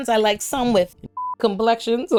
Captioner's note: beep